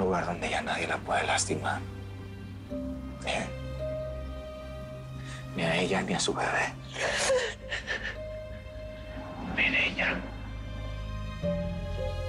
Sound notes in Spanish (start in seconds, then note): 6.9 Sollozos